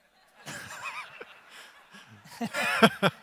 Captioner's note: audience laughter